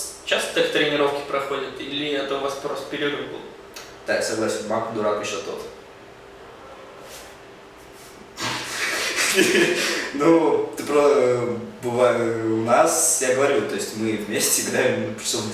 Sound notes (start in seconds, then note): 8.4 laughs